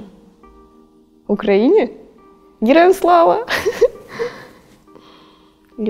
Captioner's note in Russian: смех